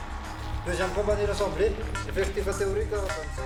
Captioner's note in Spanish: Audio hablado en francés